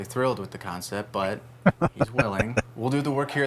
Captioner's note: laughing